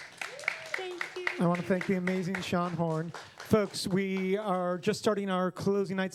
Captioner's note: applause